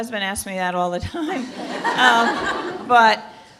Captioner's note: laughter